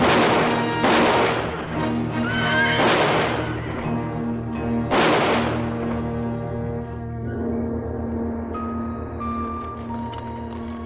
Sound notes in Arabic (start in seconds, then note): 0.3 صوت إطلاق النار; 2.0 صهيل الحصان; 4.8 صوت إطلاق النار; 8.0 موسيقى تأملية